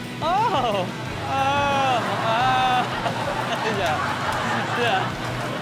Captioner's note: audience laughs